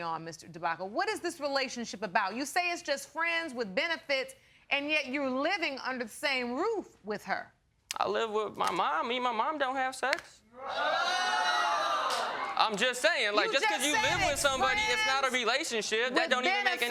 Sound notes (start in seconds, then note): 10.7 audience exclaiming loudly